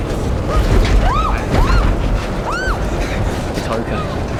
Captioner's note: screaming